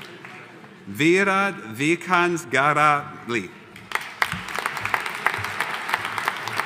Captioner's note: audience applauding